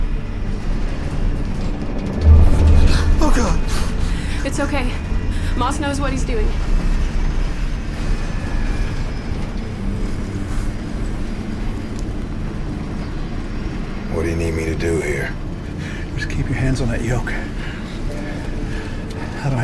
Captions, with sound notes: (airplane rattles) - Oh, God! - It's okay, Moss knows what he's doing. - What do you need me to do here? Just keep your hands on that yoke.